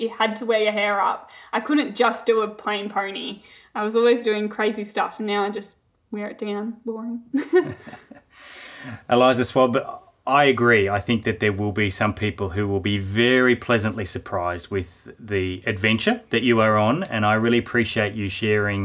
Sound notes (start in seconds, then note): 7.3 both laughing